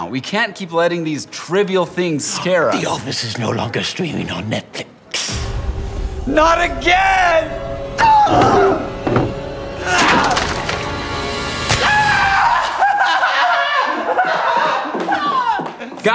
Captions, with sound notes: We can't keep letting these trivial things scare us. The Office is no longer streaming on Netflix. Not again! [scream] [crash] [puncture noise] [scream]